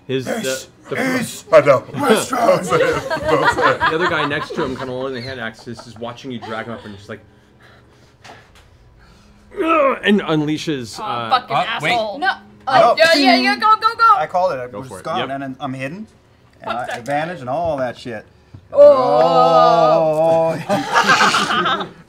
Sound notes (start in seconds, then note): 3.7 laughing; 9.5 grunts; 18.9 laughing